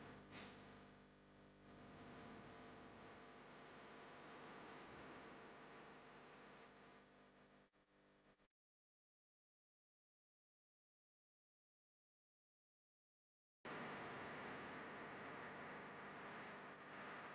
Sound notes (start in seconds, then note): none